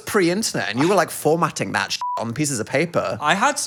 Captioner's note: beep